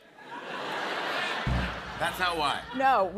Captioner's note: laughter